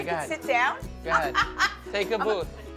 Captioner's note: laughs